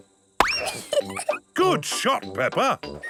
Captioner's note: giggles